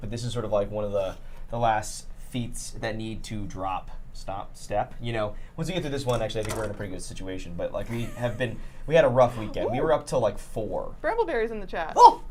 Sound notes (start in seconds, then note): 7.8 giggling